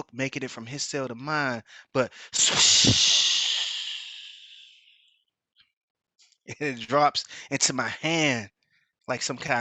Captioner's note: muffled sound effect